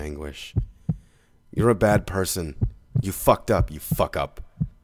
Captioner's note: yelling